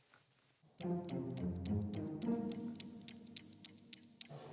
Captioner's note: newton's cradle ticking